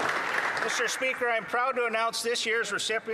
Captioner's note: applause